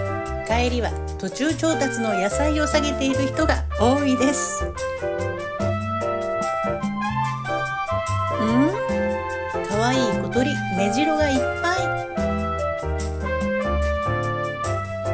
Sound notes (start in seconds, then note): 8.4 laughs